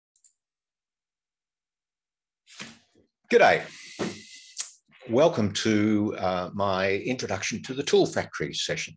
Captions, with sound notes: (Speaking Australian) Hello!. Welcome to the “Introduction to the ToolFactory” session.